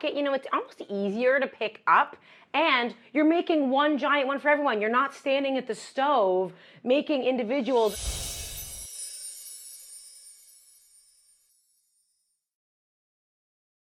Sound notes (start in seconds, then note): 7.7 screen whooshes